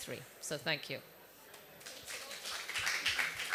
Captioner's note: applause